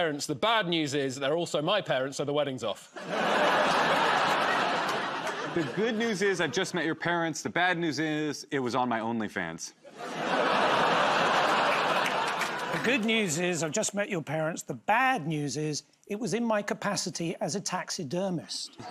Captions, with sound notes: The bad news is they're also my parents, so the wedding's off. [ Laughter ] -The good news is I've just met your parents. The bad news is it was on my OnlyFans. [ Laughter ] -The good news is I've just met your parents. The bad news is it was in my capacity as a taxidermist.